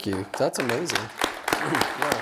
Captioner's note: applause